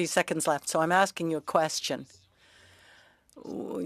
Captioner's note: speaking French